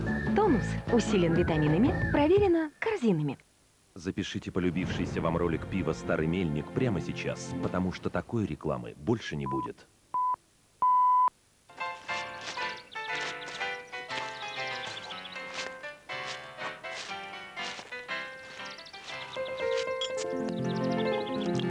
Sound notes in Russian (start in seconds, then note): 9.9 писк